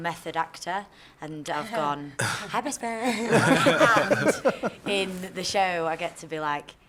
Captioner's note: laughter